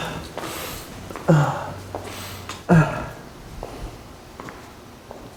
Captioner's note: groaning